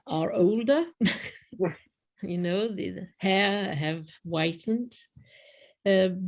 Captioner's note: laughter